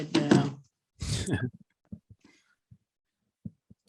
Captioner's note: laughs